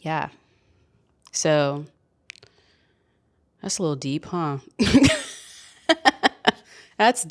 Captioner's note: chuckles